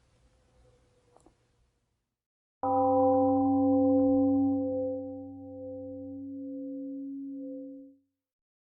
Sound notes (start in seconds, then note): 2.6 temple gong rings and fades